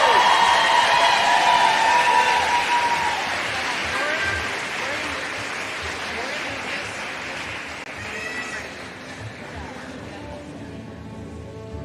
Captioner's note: applause